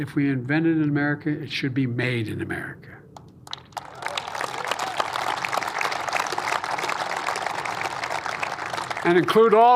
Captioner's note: applause